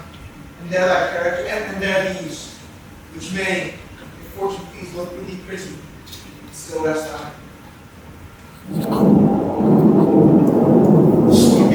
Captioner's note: thunder